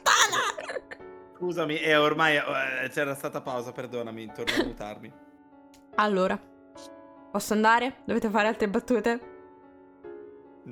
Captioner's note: barely holding a laugh; cough